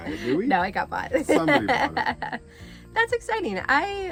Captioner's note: laughs